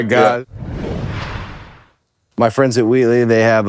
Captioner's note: logo whooshing